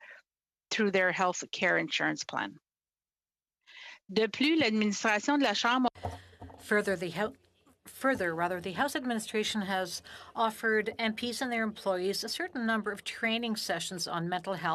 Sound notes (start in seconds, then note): 11.4 speaking French